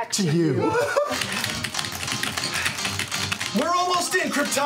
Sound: vigorous keyboard clacking

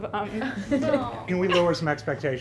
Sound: laughing

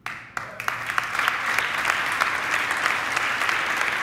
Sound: audience applauding

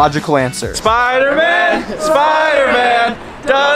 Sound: crowd

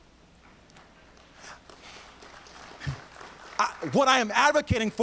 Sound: audience applauds

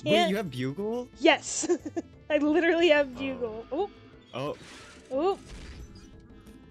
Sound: laughs

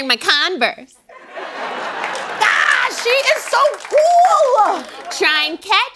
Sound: laughter

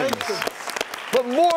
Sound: audience applauds

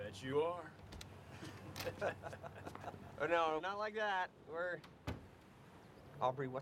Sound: laughs

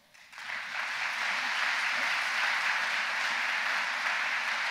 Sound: audience applauds

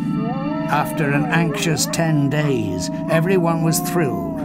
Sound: dog howls

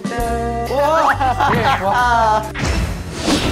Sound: surprised

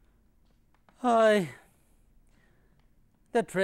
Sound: sighs

